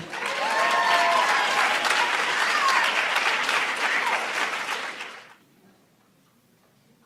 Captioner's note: applauds